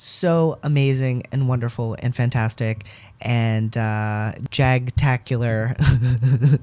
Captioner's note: laugh